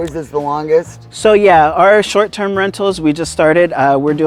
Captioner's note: pat